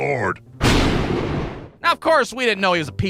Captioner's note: thunder CRACK!